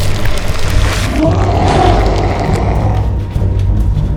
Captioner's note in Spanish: Grito